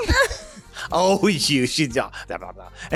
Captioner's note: laughter